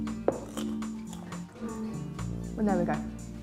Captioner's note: mellow music; garlic crunches